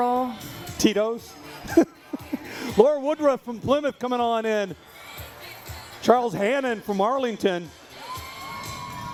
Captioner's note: laughter